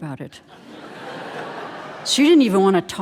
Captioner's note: audience laughing